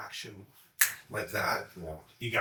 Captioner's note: snaps